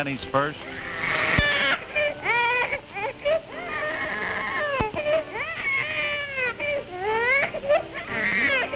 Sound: baby Crying and Music

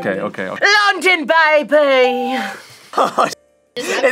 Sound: bell rings

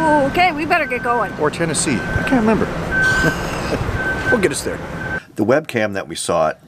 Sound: sighs

